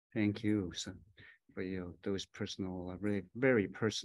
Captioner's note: speaking in Native language